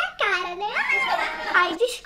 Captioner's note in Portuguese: risos